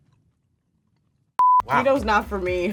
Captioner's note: electronic bleep